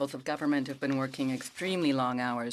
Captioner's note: speaking French